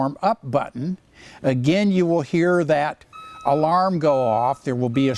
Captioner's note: beeping